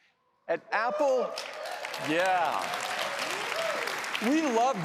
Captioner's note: applause